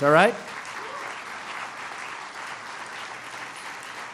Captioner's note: applause